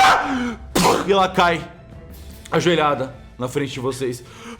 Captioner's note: yells of pain; pow